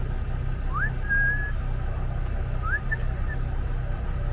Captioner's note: whistle